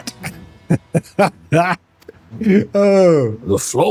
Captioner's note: laughter